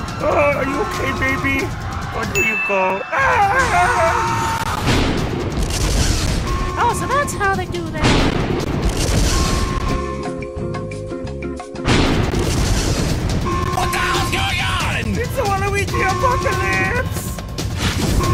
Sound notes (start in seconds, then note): 3.2 screaming; 4.4 browser scream